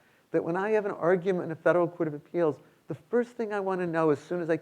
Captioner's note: none